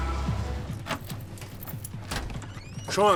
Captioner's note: keys jingling